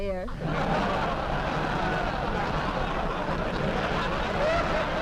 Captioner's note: audience laughing